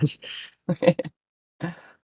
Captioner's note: heheh